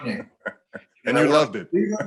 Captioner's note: laughs